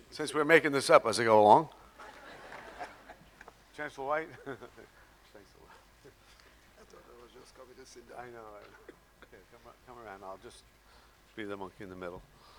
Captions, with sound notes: Since we're making this up as we go along. (audience laughing) Chancellor White. (laughing) - Thanks so much. I thought I was just coming to sit down. - I know, come, come around and I'll just be the monkey in the middle.